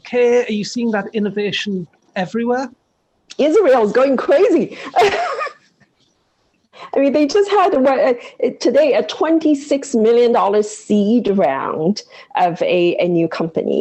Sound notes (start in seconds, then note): 4.6 laughs